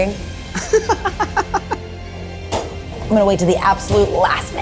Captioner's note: laughs